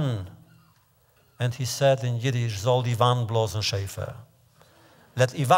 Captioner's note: Yiddish